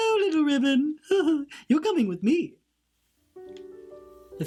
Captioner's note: giggles